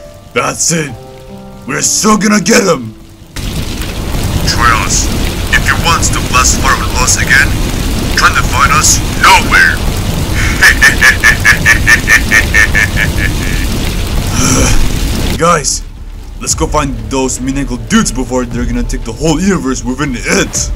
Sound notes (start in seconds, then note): 10.3 evil laughter; 14.1 groans